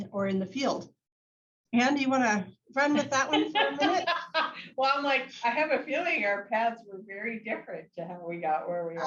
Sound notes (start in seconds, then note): 3.2 laughs